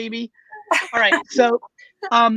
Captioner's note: laughing